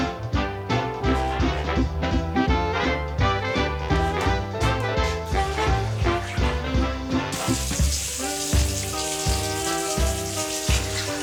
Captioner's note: water running down the drain